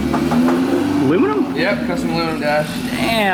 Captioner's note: tapping